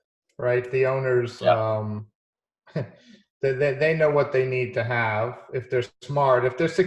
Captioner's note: chuckling